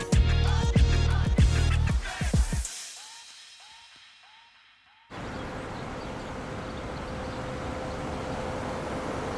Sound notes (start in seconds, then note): 5.1 city sounds